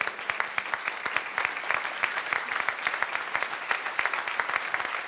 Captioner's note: applause